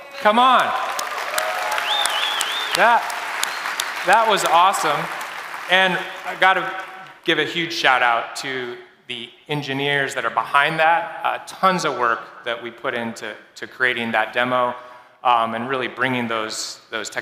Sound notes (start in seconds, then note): 2.3 cheers and Applause